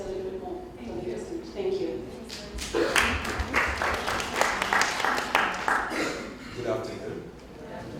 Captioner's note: applause